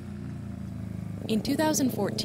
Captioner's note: motorcycle going past